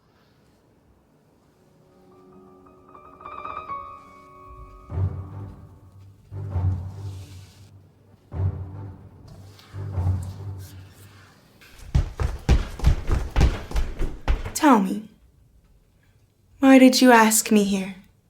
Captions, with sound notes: (dramatic music) (footsteps thudding) - Tell me, why did you ask me here?